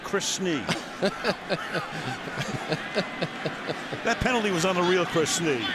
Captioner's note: laughs